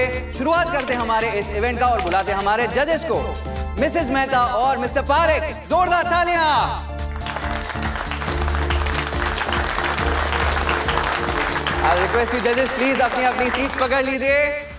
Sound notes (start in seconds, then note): 7.0 cameras clicking; 7.1 crowd clapping